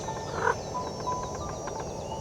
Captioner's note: frog croaking